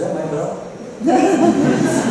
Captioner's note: laughter